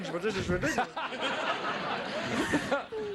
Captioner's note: laughing